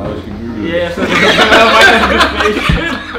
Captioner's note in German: die Jungs lachen